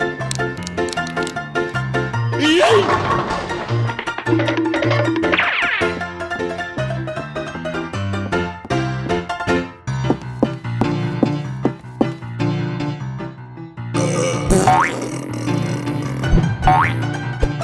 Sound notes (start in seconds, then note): 13.9 buurp!!!; 14.4 toot!!!